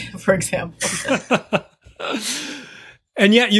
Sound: chuckle

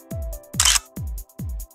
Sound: click

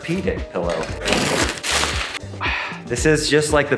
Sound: plastic crinkling

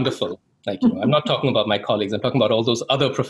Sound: laughing; laughs

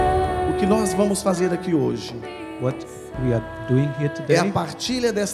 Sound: priest speaks in Portuguese

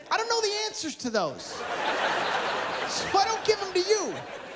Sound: laughter

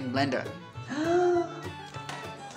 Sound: fake Gasp

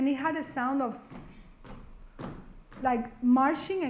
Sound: marching sounds

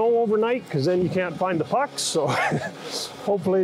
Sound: chuckles

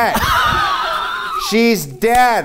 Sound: laughing

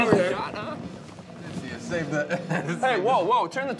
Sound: knocking on door

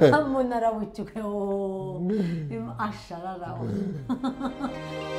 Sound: laughs; uplifting music

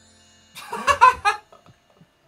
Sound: Phil laughs

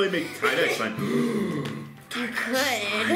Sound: large gasp

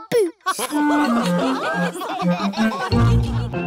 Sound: laughter

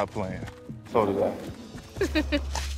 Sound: giggling

